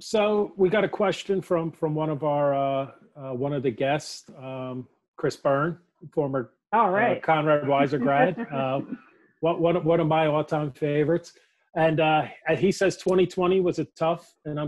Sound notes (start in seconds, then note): 7.1 laughs